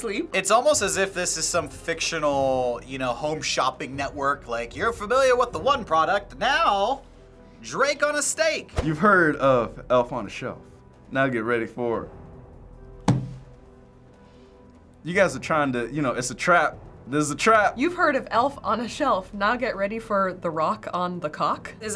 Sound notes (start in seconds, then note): 13.1 slamming table